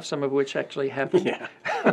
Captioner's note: laughs